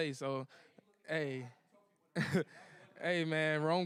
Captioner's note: laughs